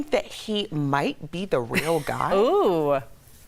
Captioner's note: laughter